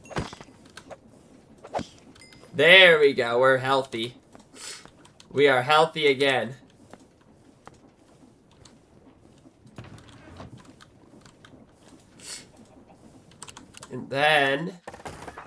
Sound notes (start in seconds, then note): 4.6 snorts; 12.2 snorts